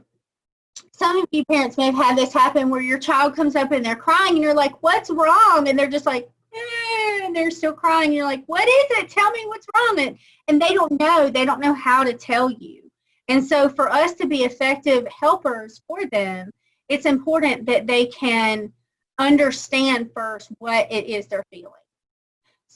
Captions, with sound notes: some of you parents may have had this happen, where your child comes up and they're crying and you're like, what's wrong. And they're just like,(crying) they're still crying. And you're like, what is it? Tell me what's wrong. And they don't know. They don't know how to tell you. And so for us to be effective helpers for them, it's important that they can understand first what it is they're feeling.